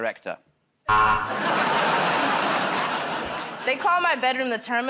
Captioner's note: buzzer